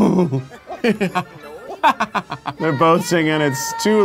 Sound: chuckles

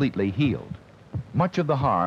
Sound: heartbeat sound

